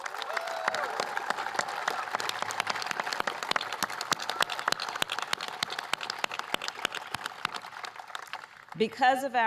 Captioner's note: applause